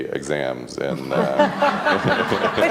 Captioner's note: laughs